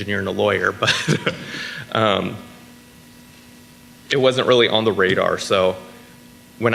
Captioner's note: laughs